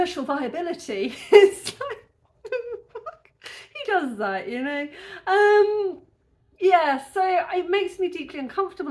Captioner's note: laughing